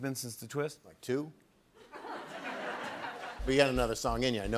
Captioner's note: laughter